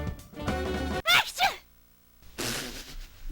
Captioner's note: sneezes